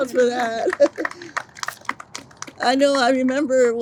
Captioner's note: audience applauds